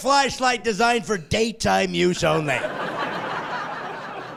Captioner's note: laughing